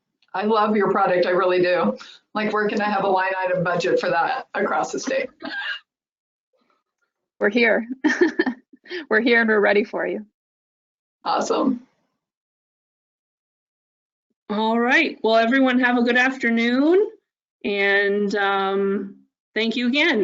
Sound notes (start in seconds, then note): 5.0 laughs